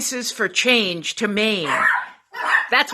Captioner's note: dogs barking